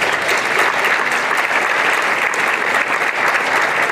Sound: applause

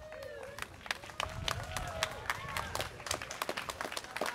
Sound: students cheering

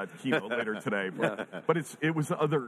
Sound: all chuckle

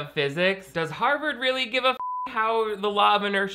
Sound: beep

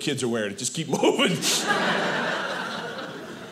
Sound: audience laughing

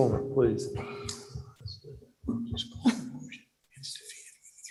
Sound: whispering

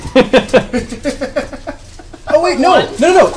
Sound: all laugh

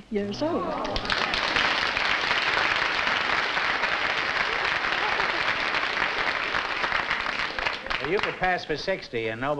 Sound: applause

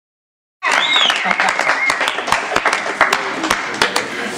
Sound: cheering and applause

